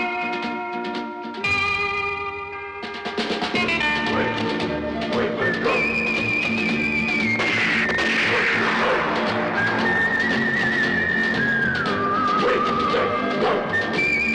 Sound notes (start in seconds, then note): 7.4 gunshots